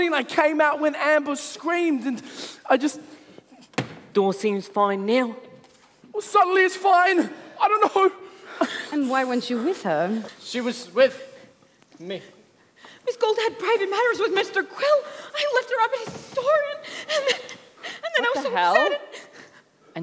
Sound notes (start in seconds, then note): 3.7 door shuts